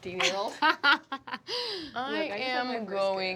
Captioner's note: Fig laughs